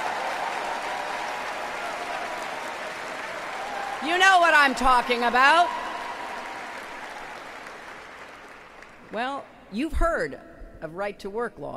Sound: applause

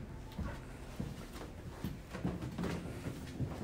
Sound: stairs creaking

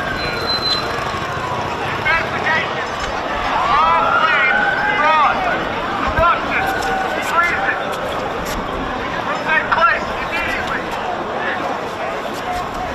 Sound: crowd noise

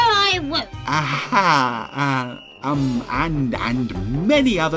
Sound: narrator stammering

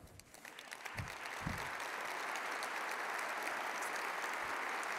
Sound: audience applauds

